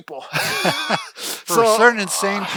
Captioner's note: laughs